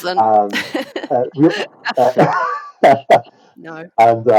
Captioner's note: laughter